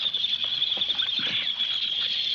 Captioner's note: birds chirping